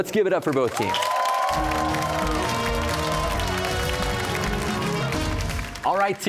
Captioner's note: cheers and applause